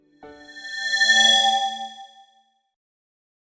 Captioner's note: swoosh